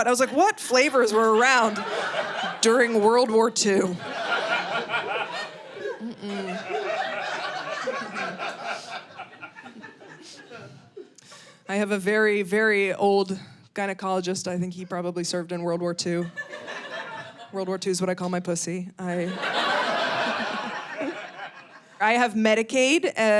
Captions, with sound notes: I was like, "What flavors were around during World War II?" (audience laughing) I have a very, very old gynecologist. I think he probably served in World War II. World War II is what I call my pussy. (audience laughing) I have Medicaid.